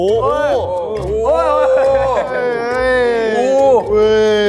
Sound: amused

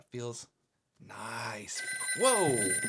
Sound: phone rings

